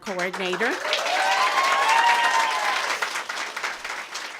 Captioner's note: applause